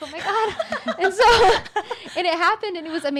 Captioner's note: laughing